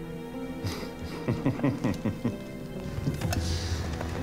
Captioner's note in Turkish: Gülme sesi